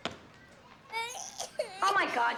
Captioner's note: Phillip, Jr. crying